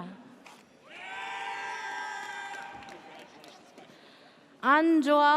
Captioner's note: audience cheers